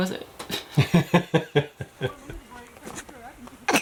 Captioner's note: chuckling